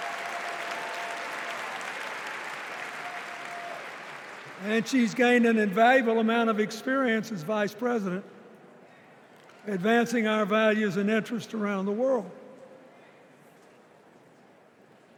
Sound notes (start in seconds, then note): 6.6 applause